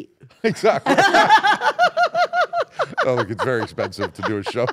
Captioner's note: laugh